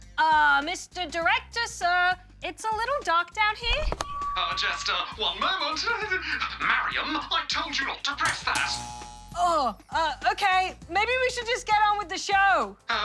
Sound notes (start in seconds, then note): 4.3 feedback whines; 5.8 giggles